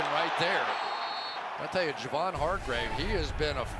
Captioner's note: whistle blows